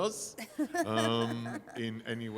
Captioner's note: laughing